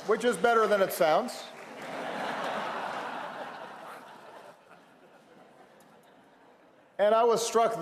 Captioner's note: laughter